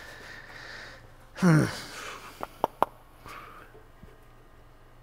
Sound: grunts

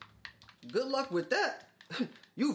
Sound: scoffs

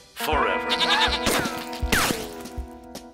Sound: screaming

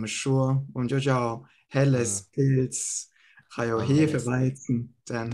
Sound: German

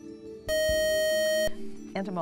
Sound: buzzer

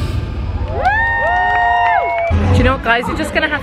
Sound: crowd cheering

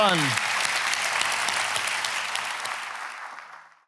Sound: audience applauds

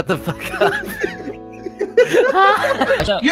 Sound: the entire cast laughs

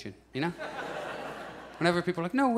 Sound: audience laughs

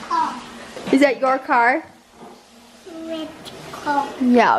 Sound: voiceover

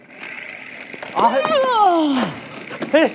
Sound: sliding

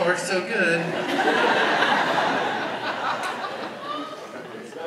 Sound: audience laughs

